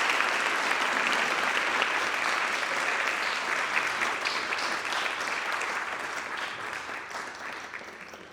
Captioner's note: audience applauding